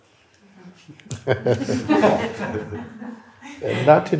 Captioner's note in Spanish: risas